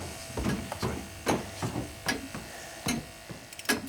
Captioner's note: clock ticking